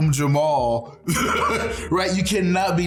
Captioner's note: laughing